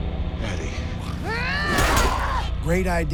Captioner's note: yelling